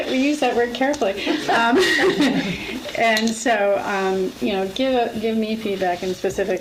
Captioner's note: laughs